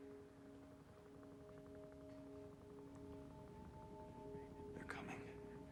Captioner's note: helicopters